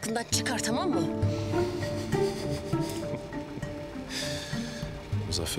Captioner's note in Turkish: Gülüyor